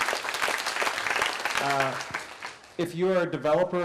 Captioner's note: applause